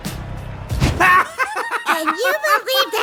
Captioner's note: hysterical laughter